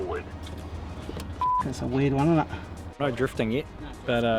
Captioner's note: beep